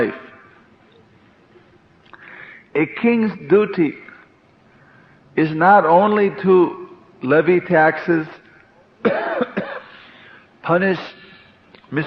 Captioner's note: coughing